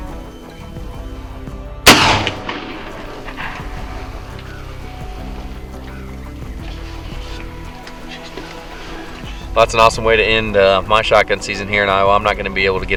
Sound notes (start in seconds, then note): 0.0 soft music; 1.8 sound of gunshot; 3.1 soft music